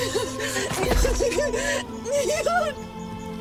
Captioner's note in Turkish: Ağlıyor